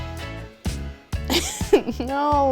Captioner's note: laughs